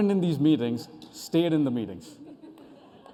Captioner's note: laughter